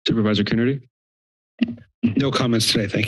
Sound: mic thumps

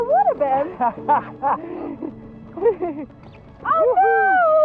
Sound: laughs

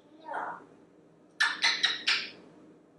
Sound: smooch, smooch, smooch, smooch

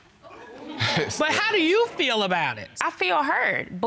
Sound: chuckles

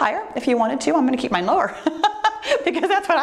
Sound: laughs

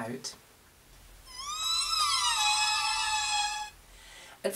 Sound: eerie sounds

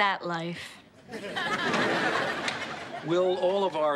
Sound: audience laughs

